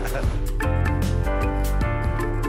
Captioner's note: laughter